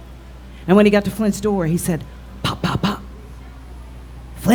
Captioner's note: pop pop pop